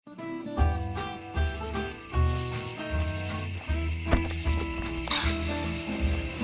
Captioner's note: birds chirping; upbeat guitar music; match scratching